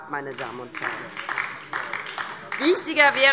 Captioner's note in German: Beifall DIE LINKE